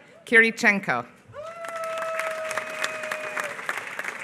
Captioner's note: applause